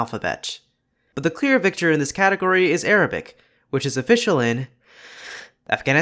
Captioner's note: deep breath